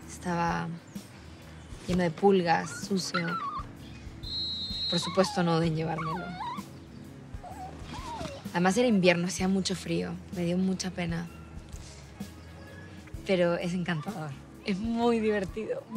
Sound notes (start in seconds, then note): 4.3 puppy squeaks